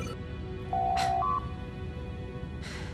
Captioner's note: door Chime